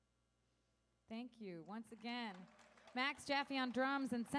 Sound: audience applauding

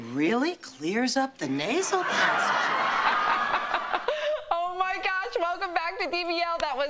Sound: laughter

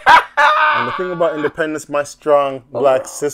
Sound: laughing

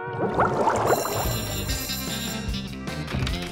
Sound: bell ringing

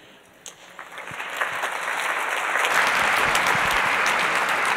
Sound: audience applauds

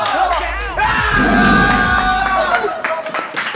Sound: roar

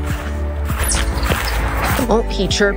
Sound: chirping

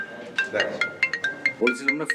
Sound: phone rings

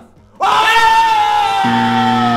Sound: both yelling; sad deflating sound effect

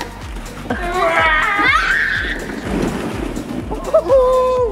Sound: yells; giggles

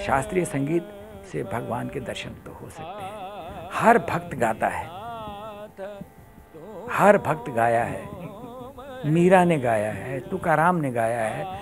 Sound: speaks in Hindi – not transcribed

